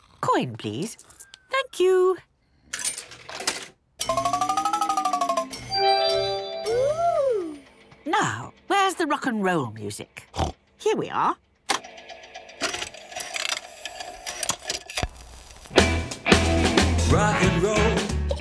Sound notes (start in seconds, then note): 5.4 beeps and chimes; 11.6 clicks, whirring